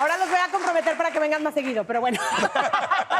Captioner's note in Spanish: Risas